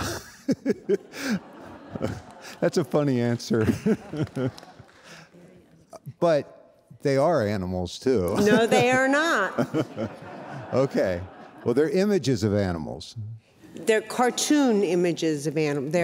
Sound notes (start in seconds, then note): 0.0 all laughing; 8.4 audience laughing